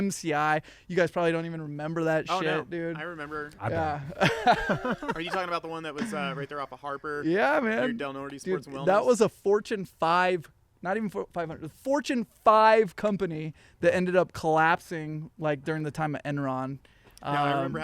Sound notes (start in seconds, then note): 5.2 all laughing